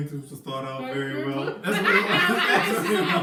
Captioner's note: T-Rex Voice; everyone laughs hysterically